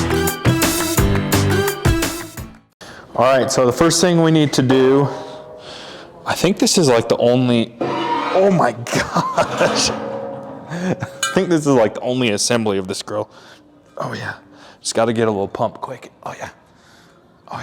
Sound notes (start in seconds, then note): 8.9 laughs